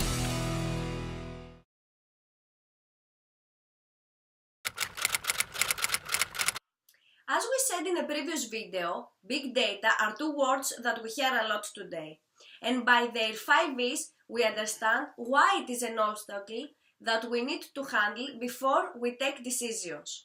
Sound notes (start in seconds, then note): 0.0 intro music plays; 2.5 typing sound